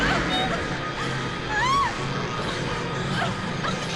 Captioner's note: girls screaming